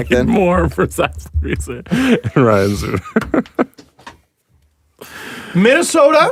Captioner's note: laughing